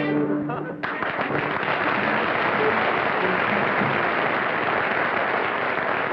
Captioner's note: applause